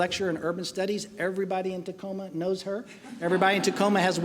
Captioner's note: laughing